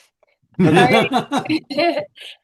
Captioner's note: chuckling